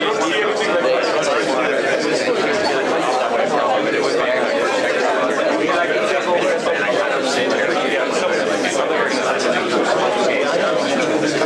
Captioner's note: background chatter